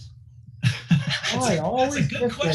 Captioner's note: laughing